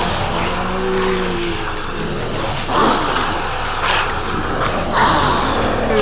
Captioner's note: all growling